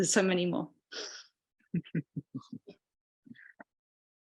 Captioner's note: chuckling